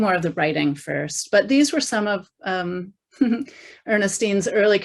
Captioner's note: chuckles